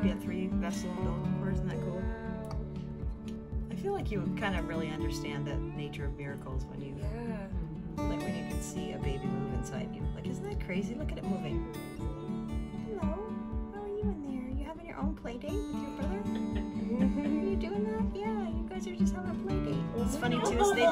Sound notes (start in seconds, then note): 16.1 laughing